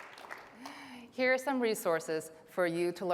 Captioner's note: applause